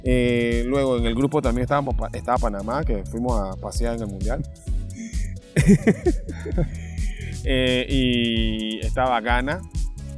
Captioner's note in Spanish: risas